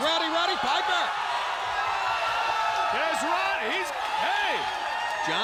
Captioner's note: applause